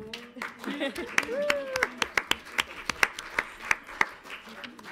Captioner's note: audience applauds